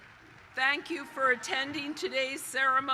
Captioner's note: cheers and applause